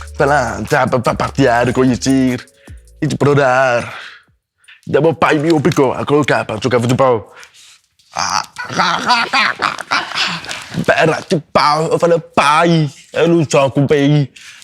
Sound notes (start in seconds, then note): 8.2 boy makes sounds with his mouth; 8.6 laughter in the background